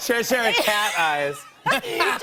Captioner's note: laughter